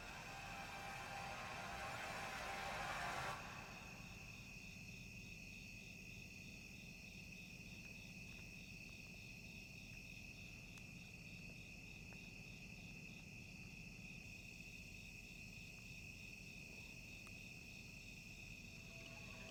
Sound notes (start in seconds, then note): 0.0 eerie music; 3.7 crickets chirping